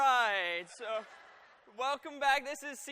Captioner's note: laughter